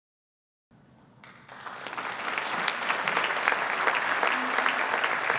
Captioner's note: audience applauding